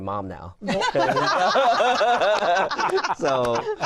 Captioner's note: laughter